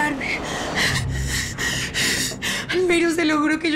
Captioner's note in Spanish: Sollozos